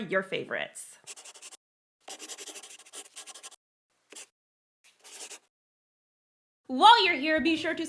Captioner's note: the sound of a pen scratching. LOGO